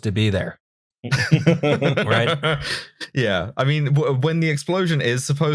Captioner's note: laughter